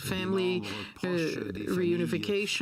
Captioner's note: speaking French